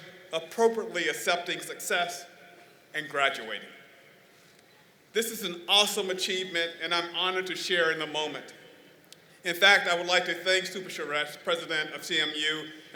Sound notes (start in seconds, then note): none